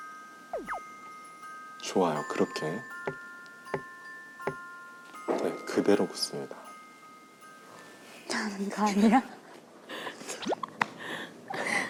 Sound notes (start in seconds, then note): 4.4 knock knock knock